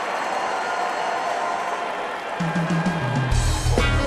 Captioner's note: cheering and applause